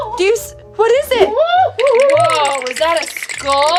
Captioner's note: teeth jittering